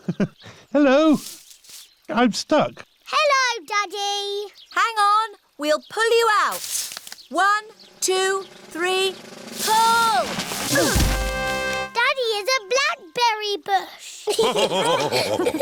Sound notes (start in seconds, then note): 10.6 all grunt; 14.2 all laughing